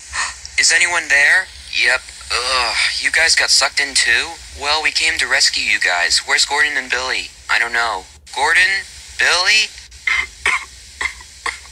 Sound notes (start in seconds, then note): 0.5 gasp; 2.2 groans; 11.0 coughs